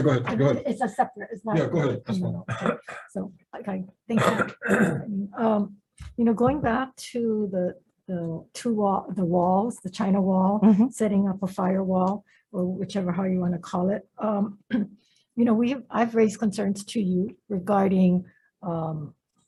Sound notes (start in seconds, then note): 4.1 coughing; 4.1 clears throat